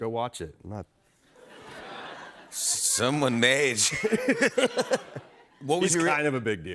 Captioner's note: laughter